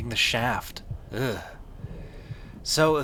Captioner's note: flesh throbbing